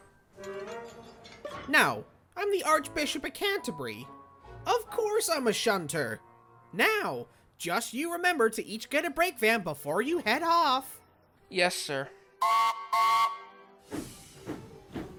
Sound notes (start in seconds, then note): 12.5 mac whistles